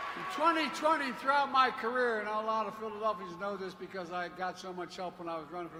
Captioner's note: applause